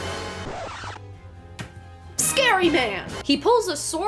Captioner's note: record scratch